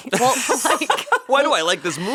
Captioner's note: laughing